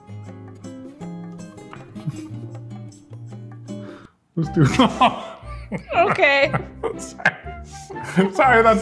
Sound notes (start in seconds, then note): 4.3 playful music; 4.5 both laughing